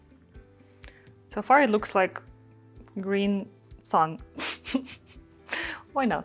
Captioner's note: chuckles